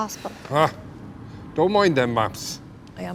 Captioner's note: scoffs